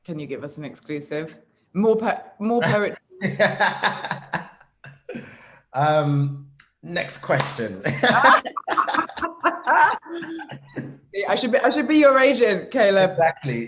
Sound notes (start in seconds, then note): 3.2 laughs; 7.8 both laugh